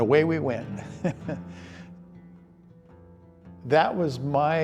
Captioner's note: chuckles